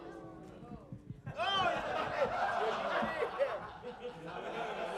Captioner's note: audience laughs